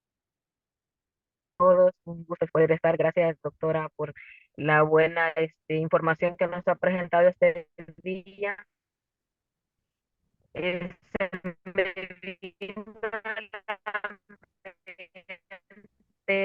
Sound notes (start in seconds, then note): 2.5 speaking in foreign language